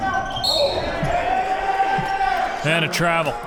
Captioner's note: whistle blows